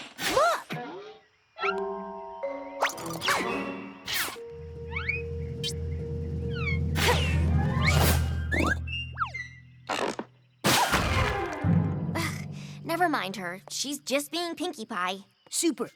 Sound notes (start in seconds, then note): 0.1 zip! zip! boing!; 3.1 patter!; 4.0 zip! blink!; 6.0 sloop! zip!; 9.8 creak!; 11.7 sighs